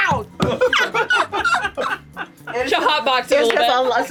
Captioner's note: laughter